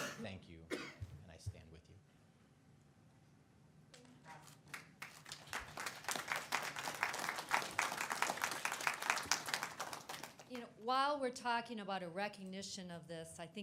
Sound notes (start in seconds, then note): 4.6 audience applauds